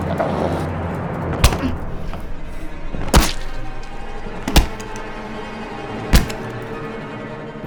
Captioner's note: splattering; whacking